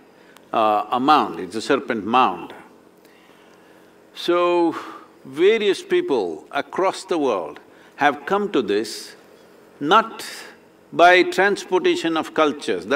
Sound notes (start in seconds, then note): none